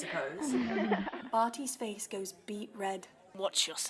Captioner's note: surrounding laughs